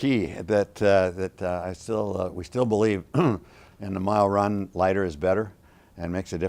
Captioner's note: throat clear